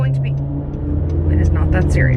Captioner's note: loud car engine roars